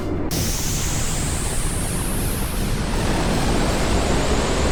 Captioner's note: whooshing; hissing